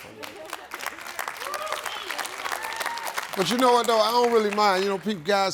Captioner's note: audience clapping and cheering